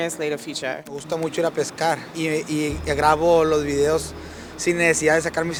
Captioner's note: foreign language